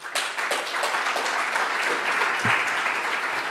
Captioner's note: applause